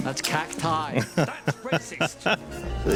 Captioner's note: laughing